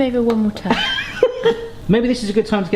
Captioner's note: laughing